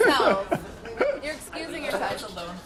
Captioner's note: laughs